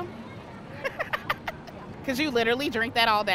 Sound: laughing

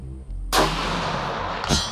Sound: suspenseful music; rifle shot

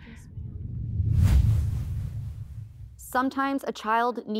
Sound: air quivers

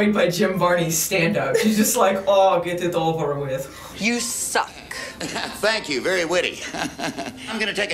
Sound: chuckles

